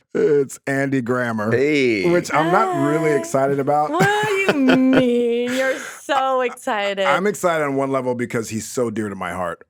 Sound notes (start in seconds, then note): 2.0 laughs